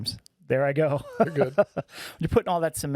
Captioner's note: laughing